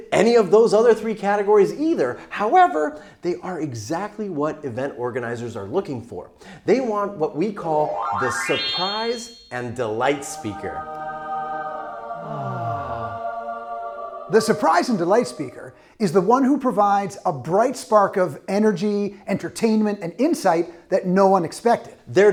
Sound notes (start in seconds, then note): 10.5 angelic choral music; 12.7 both sigh contentedly